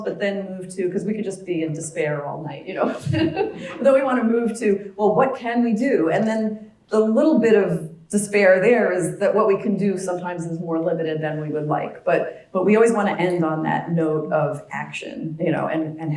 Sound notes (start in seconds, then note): 2.8 laugh